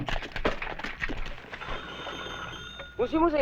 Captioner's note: dialling sounds; non-english speech